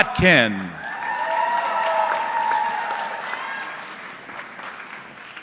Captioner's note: audience clapping